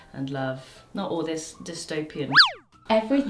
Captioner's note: cartoon sound effect